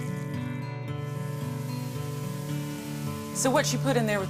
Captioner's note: light guitar music; sizzling in pan